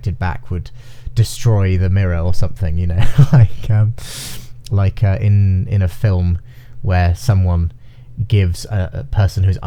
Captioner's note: laughing